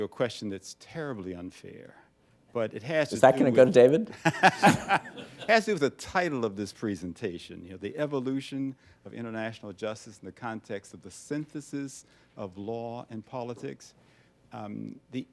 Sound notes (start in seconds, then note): 4.2 laughs